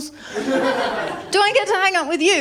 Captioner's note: laughter